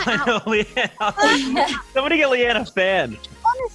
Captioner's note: laughs